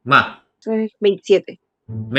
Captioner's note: Spanish